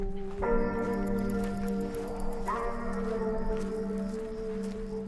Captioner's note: footsteps crunching